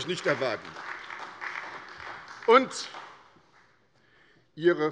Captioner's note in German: Beifall bei der SPD